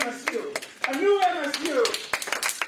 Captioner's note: applause